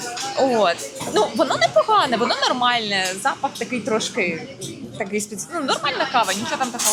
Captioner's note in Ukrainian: сміх